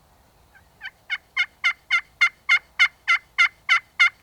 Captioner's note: turkey calling